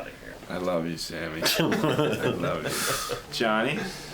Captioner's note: laughter